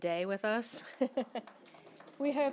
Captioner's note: laughter and applause